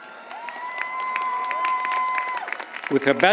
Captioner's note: applause